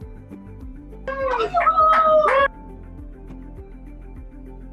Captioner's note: cheering